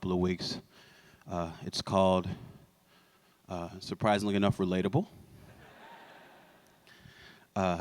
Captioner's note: laughter